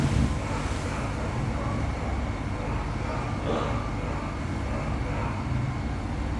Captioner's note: continuous barking